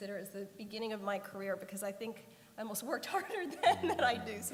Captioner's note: laughter